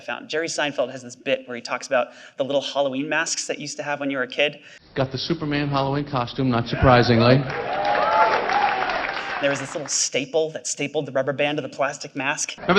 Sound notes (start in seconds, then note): 6.7 audience cheering